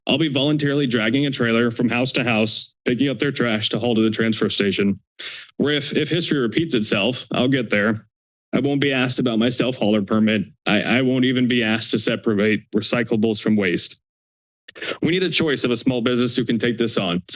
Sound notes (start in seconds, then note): 5.2 inhales; 14.7 inhales